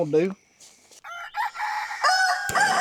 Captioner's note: rooster crowing